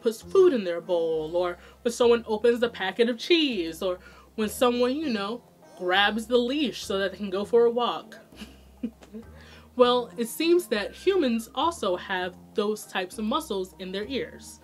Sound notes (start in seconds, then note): 8.8 laughs